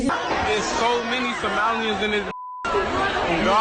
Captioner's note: beep